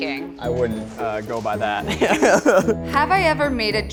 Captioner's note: laughs